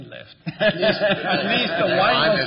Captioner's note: laughter